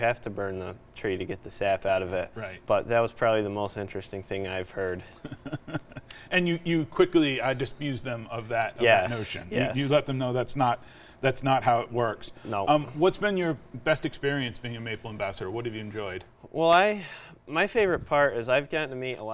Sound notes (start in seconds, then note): 5.0 laughing